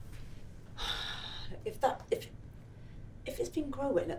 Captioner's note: sighs